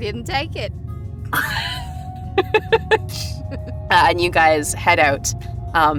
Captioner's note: chuckles